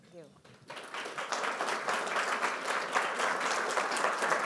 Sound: audience applauding

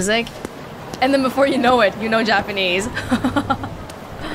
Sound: chuckles

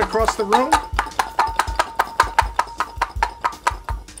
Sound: jar clattering

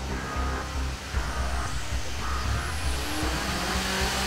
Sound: engine roars

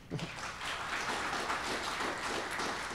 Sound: applause

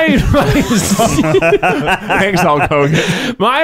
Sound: laughing

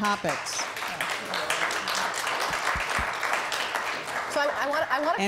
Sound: audience Applause

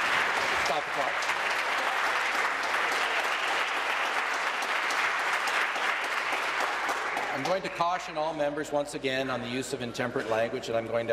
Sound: applause

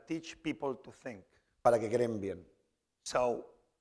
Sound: speaking spanish

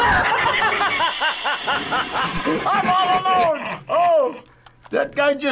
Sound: laughing

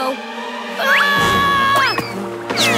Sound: screaming

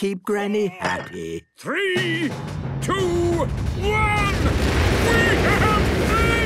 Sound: rockets igniting

